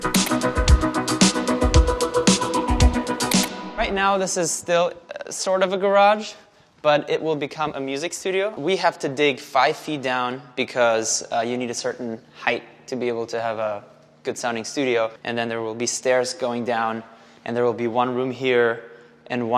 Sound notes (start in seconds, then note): 0.0 upbeat music; 3.2 button clicking